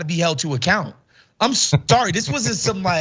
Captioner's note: laugh